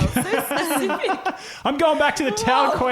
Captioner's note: laughing